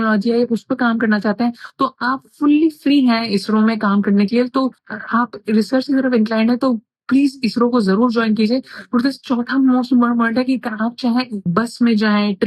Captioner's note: speaking in foreign language